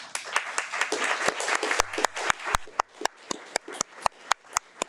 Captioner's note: audience applauding